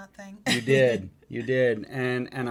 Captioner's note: chuckles